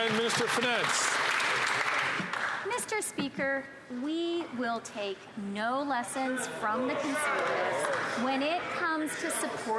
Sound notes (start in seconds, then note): 3.2 some Applause